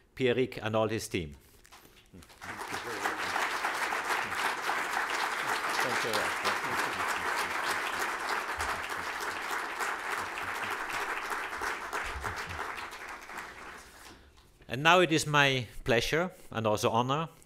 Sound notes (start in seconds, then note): 3.8 applause